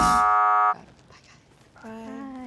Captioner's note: buzzing